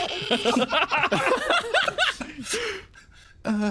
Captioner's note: laughs